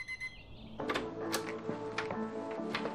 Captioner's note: alarm clock beeping; door unlocks